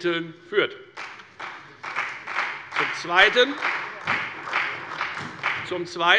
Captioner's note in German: Beifall bei der FDP, der CDU und bei Abgeordneten der SPD